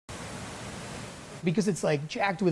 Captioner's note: water rushing